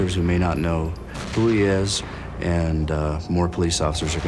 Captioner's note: none